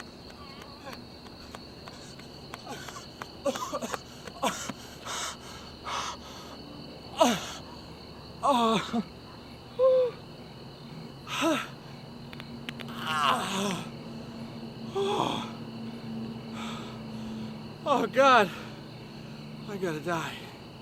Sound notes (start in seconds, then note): 0.9 panting heavily, wheezing; 12.7 back cracks, groans; 14.5 pants